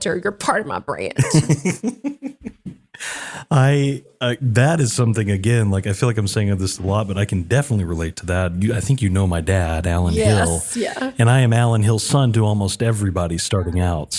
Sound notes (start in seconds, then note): 3.5 laugh